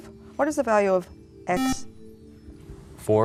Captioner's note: buzzer